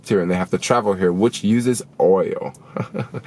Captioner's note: laughs